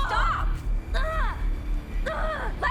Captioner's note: intense dramatic music; Jill screaming